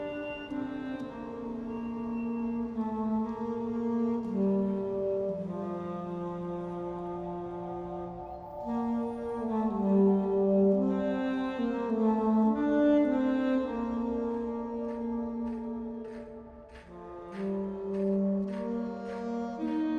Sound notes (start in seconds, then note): 3.6 somber instrumental music; 16.1 distant banging